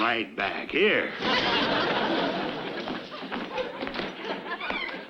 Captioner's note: audience laughs